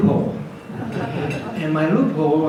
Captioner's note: audience laughs